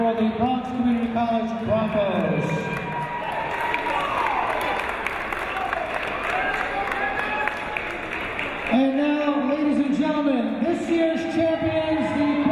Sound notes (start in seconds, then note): 3.1 applauding